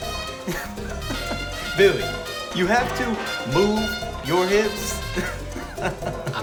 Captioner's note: laughing